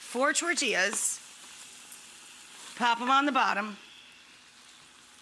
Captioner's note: pan sizzles